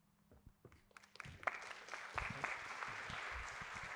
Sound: applause

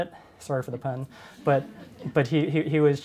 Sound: audience chuckles

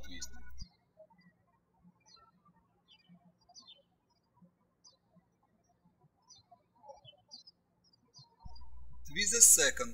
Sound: birds chirping

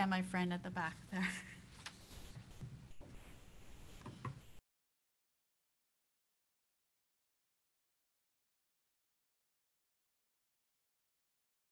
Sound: "Recovery, Reclamation and Revitalization" VIDEO PLAYING

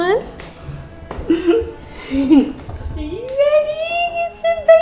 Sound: laughs

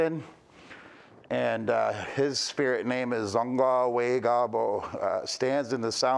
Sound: speaking Indigenous language

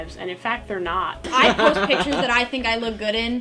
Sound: laughs

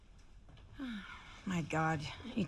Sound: sighs

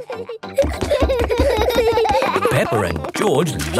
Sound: both giggling

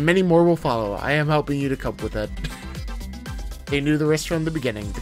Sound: laughs

